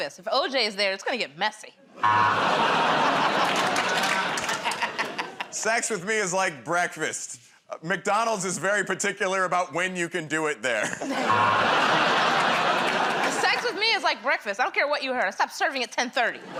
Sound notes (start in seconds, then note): 2.0 buzzer; 11.2 buzzer